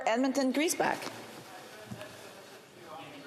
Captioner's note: speaking French